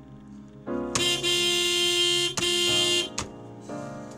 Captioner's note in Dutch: auto claxon blaring